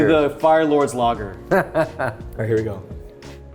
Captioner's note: laughing